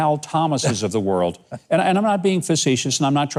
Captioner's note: chuckles